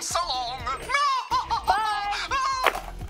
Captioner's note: laughs